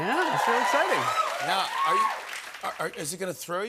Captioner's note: cheers and applause